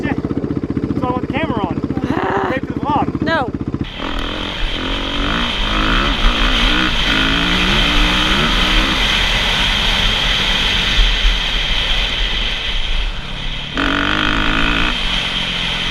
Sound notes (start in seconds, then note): 2.0 sighing; 4.4 engine revving